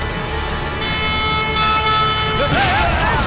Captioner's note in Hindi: हॉर्न बजाता है